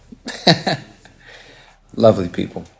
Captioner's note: chuckles